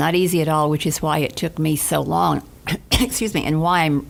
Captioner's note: coughs